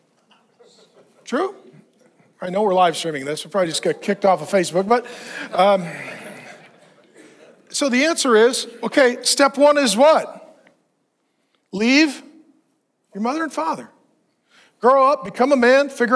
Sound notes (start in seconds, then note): 6.3 audience laughing